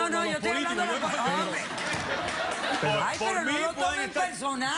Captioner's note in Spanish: Risas